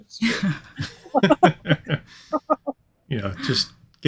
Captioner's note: chuckling